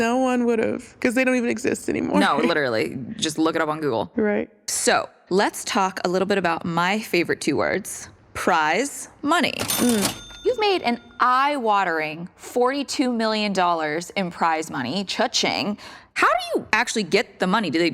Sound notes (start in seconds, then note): 2.2 laughs; 9.6 cha-ching